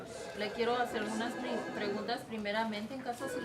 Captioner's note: speaking Spanish